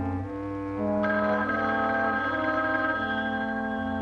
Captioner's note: phone ringing